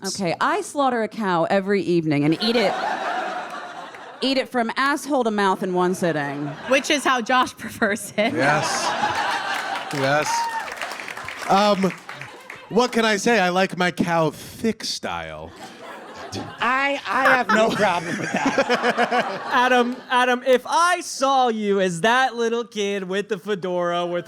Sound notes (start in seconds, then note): 2.4 audience laughs uproariously; 7.6 audience laughs; 10.6 audience applauds